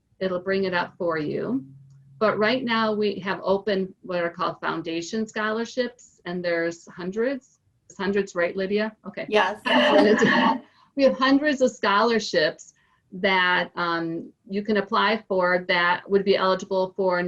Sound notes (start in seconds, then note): 9.8 cough